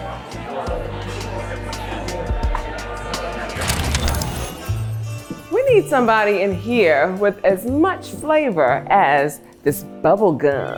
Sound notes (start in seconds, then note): 3.5 film strip crackles